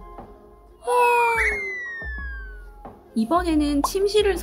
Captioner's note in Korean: 하품